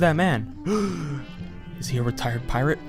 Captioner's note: gasp